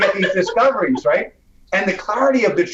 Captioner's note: laughs